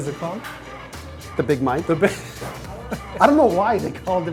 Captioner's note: laughter